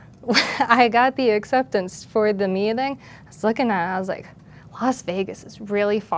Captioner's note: laugh